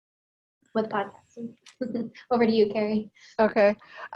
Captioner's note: chuckles